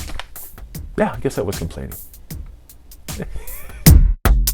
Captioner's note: laughs